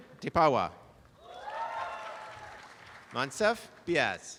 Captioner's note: applause and cheering